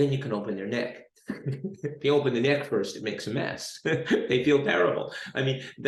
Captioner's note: chuckles